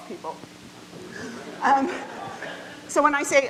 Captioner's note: audience laughing